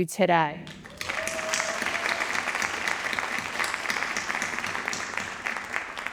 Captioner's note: audience cheering and applauding